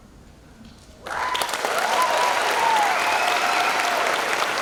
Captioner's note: cheers and applause